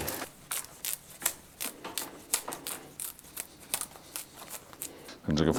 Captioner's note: sound of cane being split